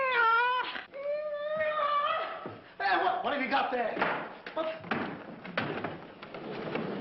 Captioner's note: shouts